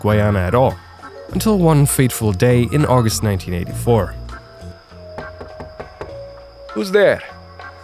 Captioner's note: knock knock